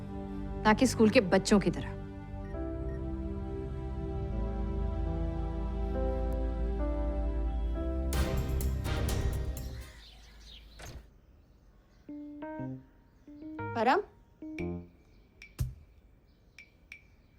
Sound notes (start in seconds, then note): 9.5 birds chirping; 10.7 door opens